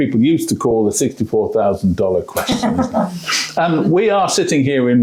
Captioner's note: laughs